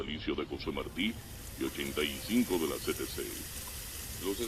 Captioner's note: radio